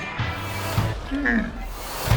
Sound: camel grunts

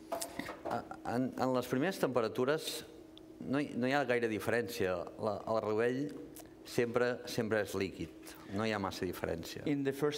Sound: speaking catalan

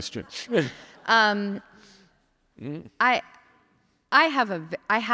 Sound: audience laughing

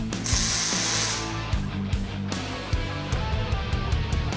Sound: machine hissing

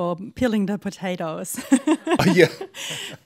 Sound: laughter

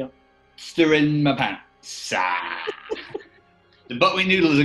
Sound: giggling

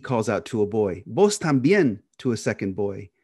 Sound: speaking in Spanish

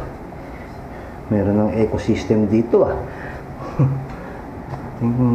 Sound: chuckles

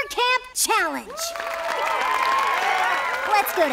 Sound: cheering

